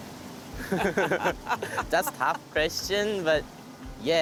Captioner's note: laughter